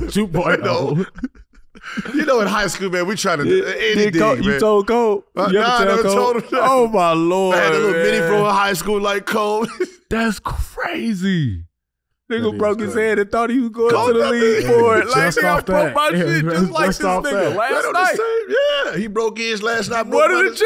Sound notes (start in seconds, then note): 14.0 Gilbert laughs